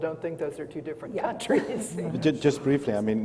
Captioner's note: laughs